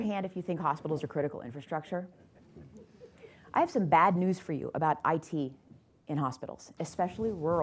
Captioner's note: laughter